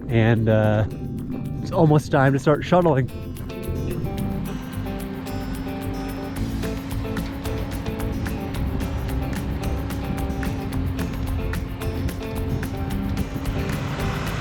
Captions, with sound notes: and it's almost time to start shuttling. (upbeat music) (truck rumbling)